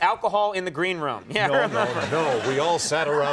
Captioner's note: crowd laughing